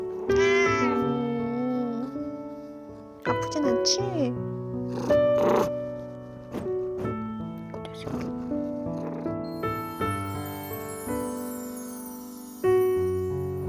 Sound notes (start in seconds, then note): 0.0 meow; 4.8 purr